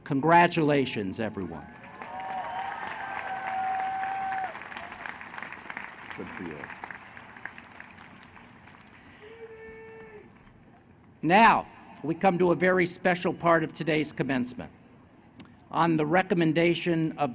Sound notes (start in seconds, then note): 1.6 applause; 7.6 applause and cheering